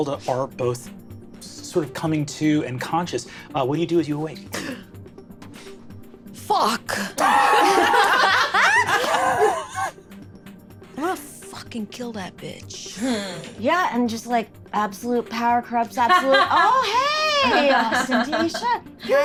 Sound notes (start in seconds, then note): 4.5 gasps; 7.1 laughing